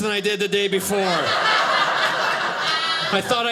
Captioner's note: audience laughing